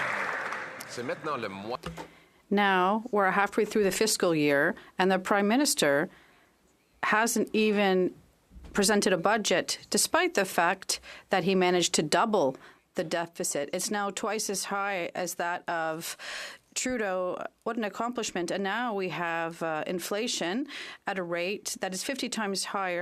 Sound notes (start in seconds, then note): 7.5 speaking French